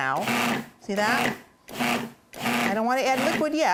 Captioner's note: blender pulsating